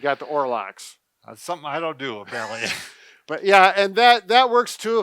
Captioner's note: laughing